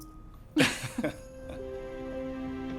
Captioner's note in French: rires